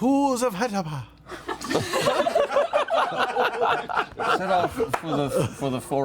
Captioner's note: laughter